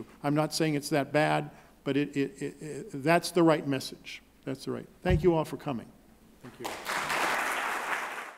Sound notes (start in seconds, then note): 6.6 applauding